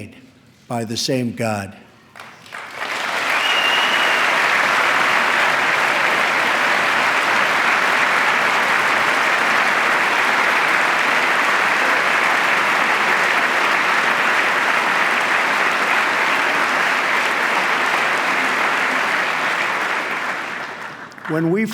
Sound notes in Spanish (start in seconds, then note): 4.2 aplauso